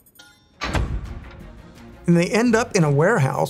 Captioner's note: mechanism beeping; vault door creaking